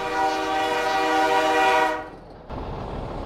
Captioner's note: train horn